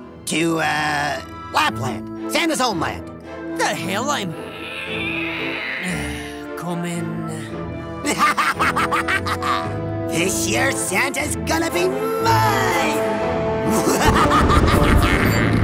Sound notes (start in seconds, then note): 4.3 sighs; 8.0 maniacal laugh; 13.6 maniacal laugh